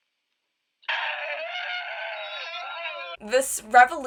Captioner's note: students cheering